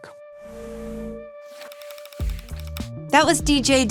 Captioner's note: gentle upbeat music; film reel clicking